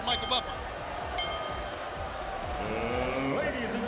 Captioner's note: bell rings